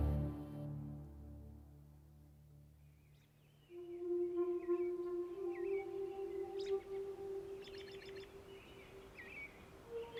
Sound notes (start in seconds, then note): 3.6 soft music; 4.4 birds chirping